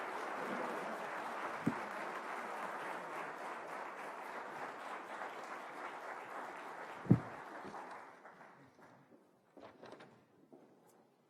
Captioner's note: applause